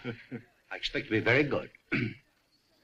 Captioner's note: ahem